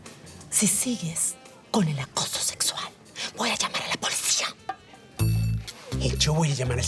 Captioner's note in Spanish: Susurra